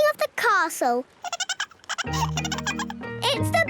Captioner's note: giggling